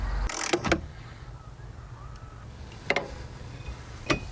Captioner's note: ratchet clicking